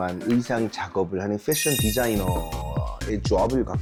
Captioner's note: her guess was right sound effect